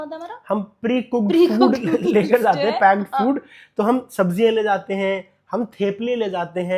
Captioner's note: laughs